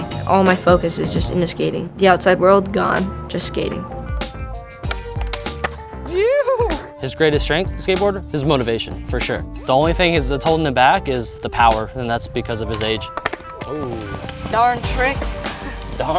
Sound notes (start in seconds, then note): 4.2 hip hop music; 6.0 cheering